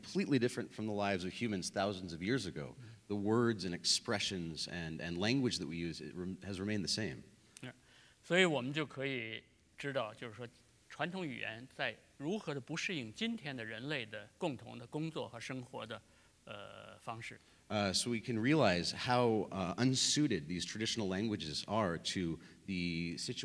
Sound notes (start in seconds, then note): 10.0 speaking in Chinese